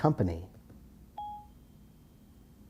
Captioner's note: ping